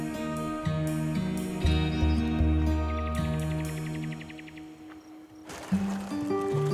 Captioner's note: birds singing